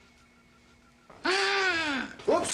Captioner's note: Licklighter gasps